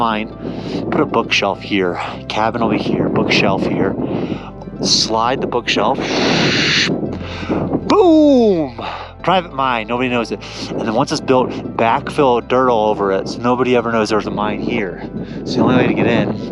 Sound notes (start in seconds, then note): 5.9 imitates bookshelf sliding